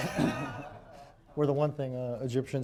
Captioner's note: laughter